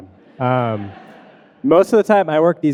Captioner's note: audience laughing